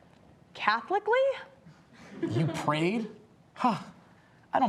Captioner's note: audience laughs